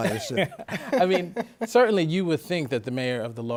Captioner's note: laughter